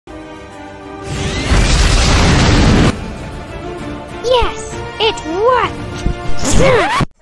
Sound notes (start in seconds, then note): 0.1 epik music; 1.0 rocket launch